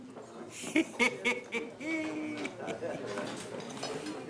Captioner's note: laughing